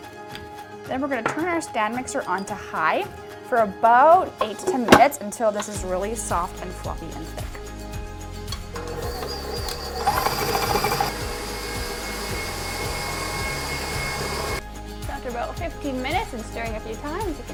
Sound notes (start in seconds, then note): 11.2 stand mixer buzzing